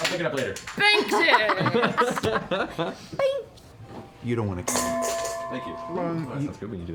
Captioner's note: clang